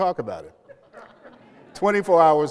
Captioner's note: laughter